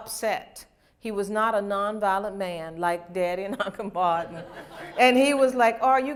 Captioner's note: laughter